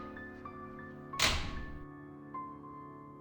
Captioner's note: loud slam